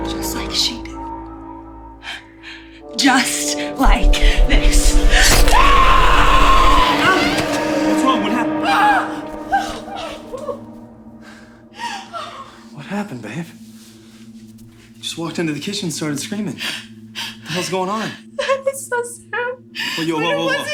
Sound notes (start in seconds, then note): 5.1 Ally screaming; 5.5 flesh squishing; 11.8 Ally gasping